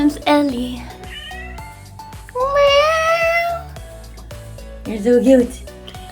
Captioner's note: meeeooooww